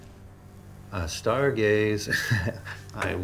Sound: Mark laughing

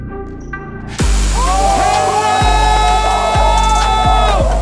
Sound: crowd cheering

